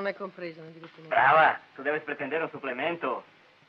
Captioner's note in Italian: lingua spagnola